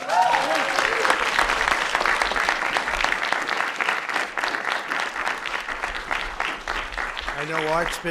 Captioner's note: applause